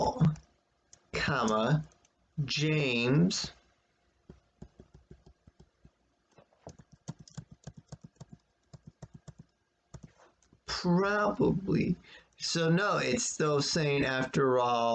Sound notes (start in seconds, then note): 8.2 tapping of computer's keyboard